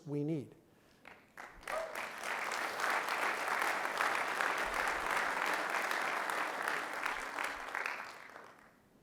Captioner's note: clapping